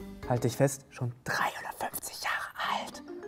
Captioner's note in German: flüstert